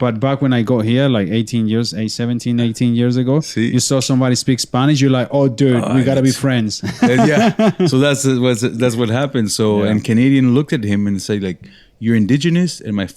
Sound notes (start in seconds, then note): 6.8 laughing